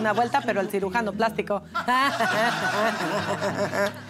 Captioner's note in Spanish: Risas